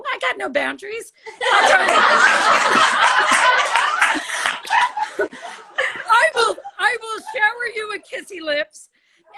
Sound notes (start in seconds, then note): 1.4 all laugh